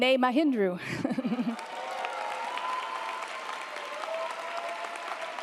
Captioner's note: audience applauding